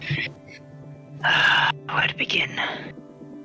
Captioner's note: sigh